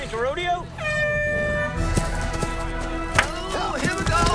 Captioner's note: air horn